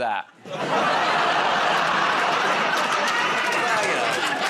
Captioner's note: laughter